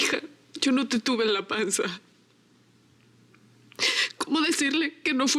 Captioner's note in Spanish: sollozos